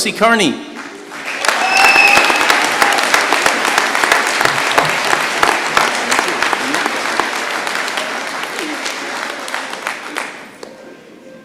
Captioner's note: applause